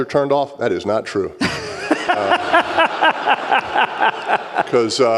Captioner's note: laughter